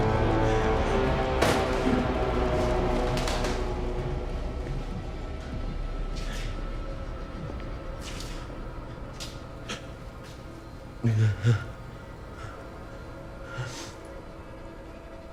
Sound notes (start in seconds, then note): 9.6 whining